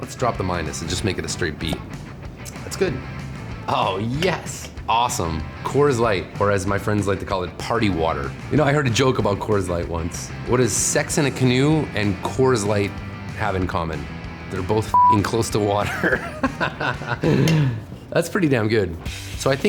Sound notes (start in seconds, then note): 15.8 laughing